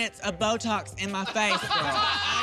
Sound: laughter

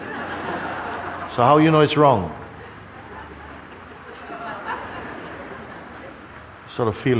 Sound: laughter; laughter

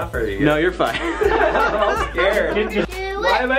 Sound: laughing

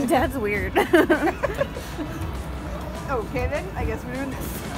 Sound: laughing

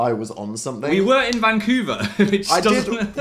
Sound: laughs

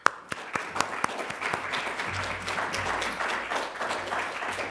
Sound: applause

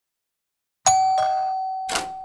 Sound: doorbell

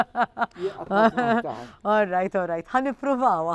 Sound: laughs

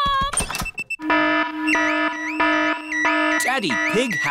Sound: alarm blaring

